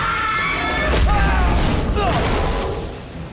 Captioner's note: screams